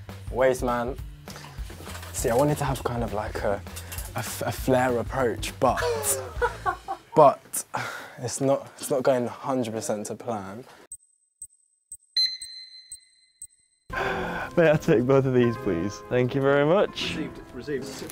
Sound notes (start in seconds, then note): 5.8 laughing; 11.9 counter beeps